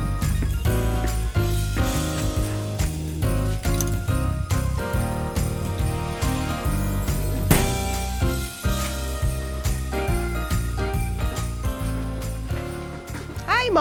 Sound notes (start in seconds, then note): 7.3 door closing; 9.8 festive music continues